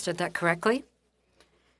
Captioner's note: speaking French